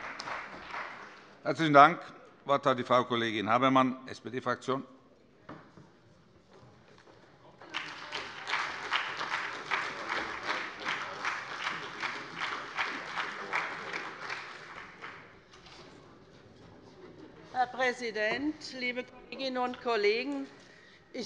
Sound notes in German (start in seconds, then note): 7.6 Beifall bei der SPD